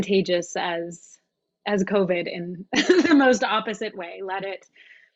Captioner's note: laughs